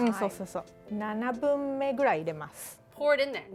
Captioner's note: speaking Japanese